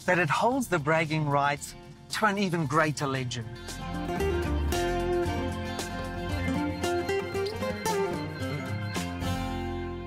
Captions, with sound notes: that it holds the bragging rights to an (energetic music continues) (birds chirping)